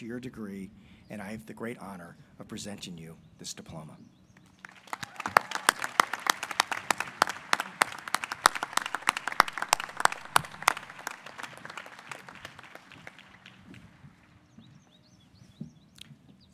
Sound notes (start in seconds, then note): 4.5 applause